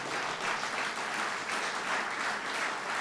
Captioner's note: applause